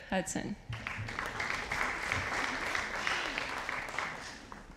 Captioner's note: audience applauding